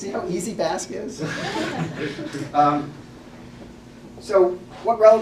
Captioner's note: laugh